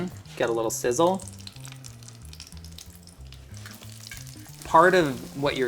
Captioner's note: potatoes sizzling